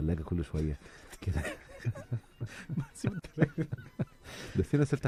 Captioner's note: laughter